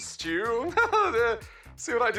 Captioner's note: laughs nervously